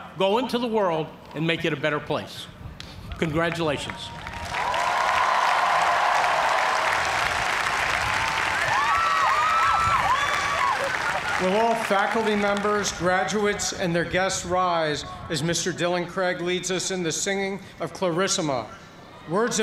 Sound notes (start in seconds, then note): 4.8 cheers and applause